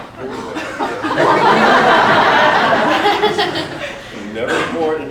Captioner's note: audience gasps then laughs again